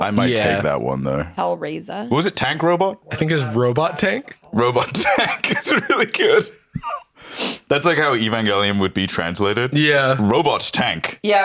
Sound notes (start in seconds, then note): 2.8 laughing